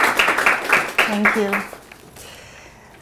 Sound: audience clapping

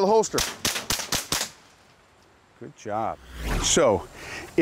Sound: gunshots

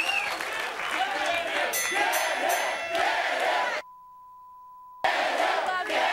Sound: beep

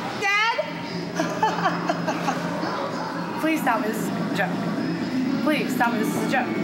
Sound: laughs

